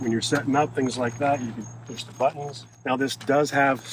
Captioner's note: none